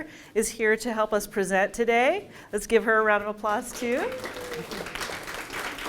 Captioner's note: applause